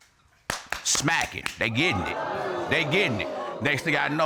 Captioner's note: audience exclaims